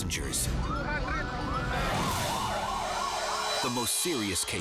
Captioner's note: sirens screaming